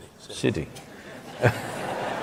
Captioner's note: laughter